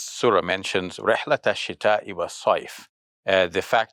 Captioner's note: speaks in foreign language